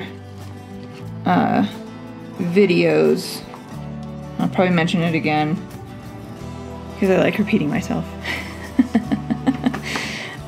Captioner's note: laugh